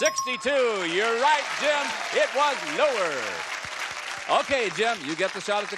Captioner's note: applause